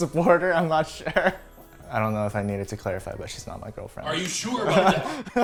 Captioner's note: laughing